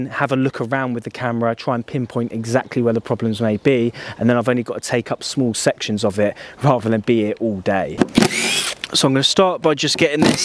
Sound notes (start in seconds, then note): 8.0 drill sound